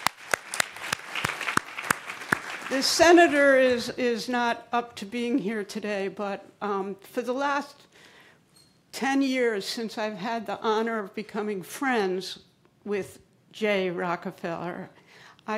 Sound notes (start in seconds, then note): 2.7 applause